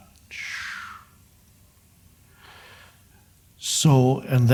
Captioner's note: mimics whoosh